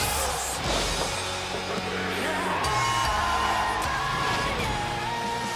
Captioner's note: bell ringing